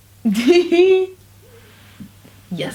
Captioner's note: laugh